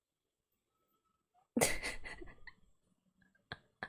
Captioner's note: laughs